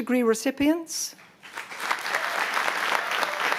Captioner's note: cheering